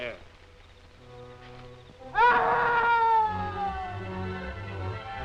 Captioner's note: screaming